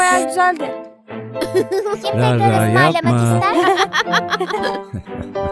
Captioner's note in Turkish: gülüyor